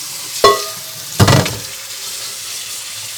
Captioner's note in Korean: 냄비 부딪치는 소리